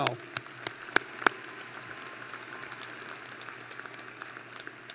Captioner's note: applause